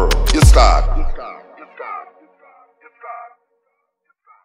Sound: final word echoes; music stops

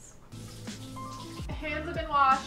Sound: water spattering

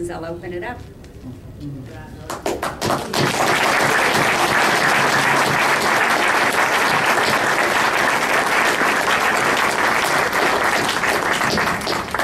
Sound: applause

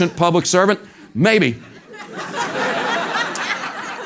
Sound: laugh

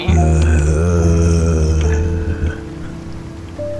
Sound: groans

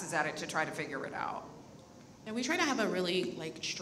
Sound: none

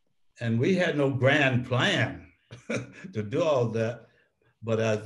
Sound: laughs

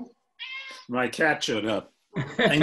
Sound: cat meowing

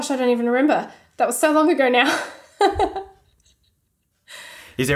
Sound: laughing

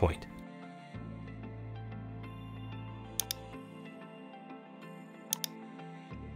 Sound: gentle instrumental music; mouse clicking

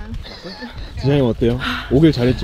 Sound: tired

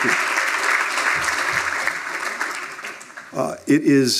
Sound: applause

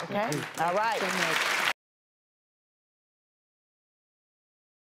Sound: applause

